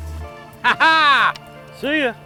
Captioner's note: laughs